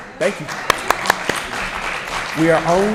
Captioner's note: applause